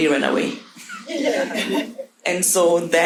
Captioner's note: audience laughing